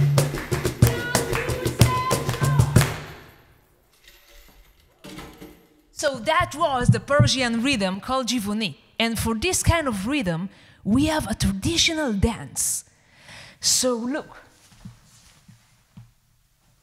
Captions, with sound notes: Yek, do, se, chahâr. [music stops] So that was the Persian rhythm called [speaks Farsi]. And for this kind of rhythm, we have a traditional dance. So look.